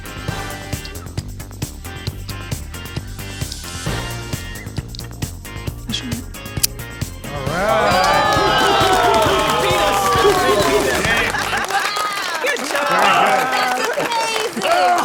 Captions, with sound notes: (upbeat music) - Alright. (audience exclaiming) - You beat us. (audience applauding) - Wow. - Good job.